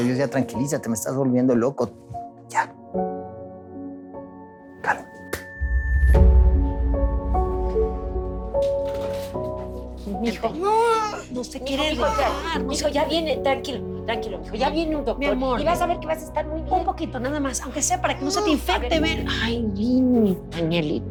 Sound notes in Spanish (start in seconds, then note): 11.2 Hablan al unísono